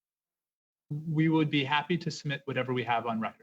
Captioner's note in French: voix de l'interprète